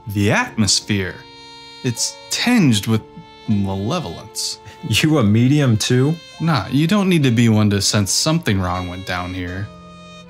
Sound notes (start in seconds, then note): none